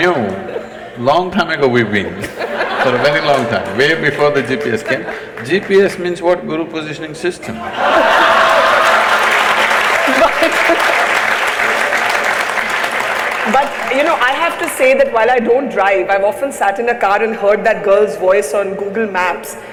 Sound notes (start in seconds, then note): 2.2 laughter/Applause; 2.8 applause; 7.6 laughter/Applause